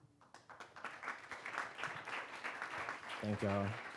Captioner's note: applause